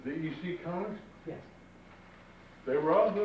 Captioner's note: male Voice